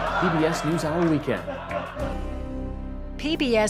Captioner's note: laughter